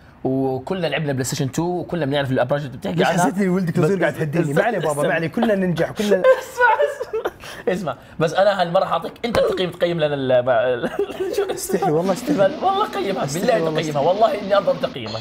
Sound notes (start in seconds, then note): 10.8 laughs